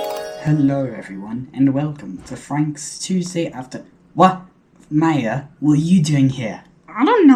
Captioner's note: with an obviously fake english accent